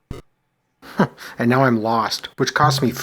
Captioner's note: chuckles